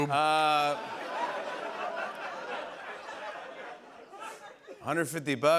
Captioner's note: laughter